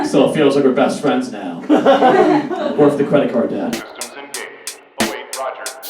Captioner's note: audience Laughs